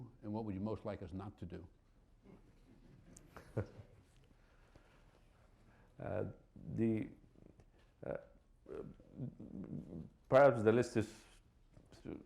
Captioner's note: laughter